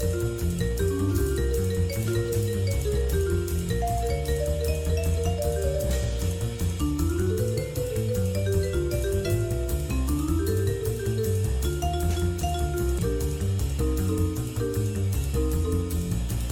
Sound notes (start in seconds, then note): none